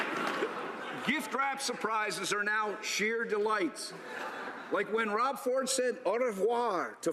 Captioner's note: applause